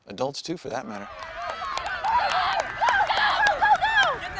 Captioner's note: cheering